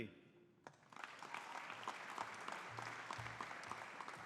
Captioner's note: audience applauding